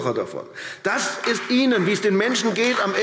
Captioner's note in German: Beifall AfD